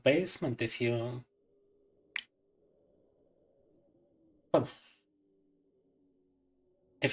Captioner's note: speaking in Russian